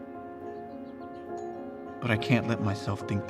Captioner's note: doorbell chimes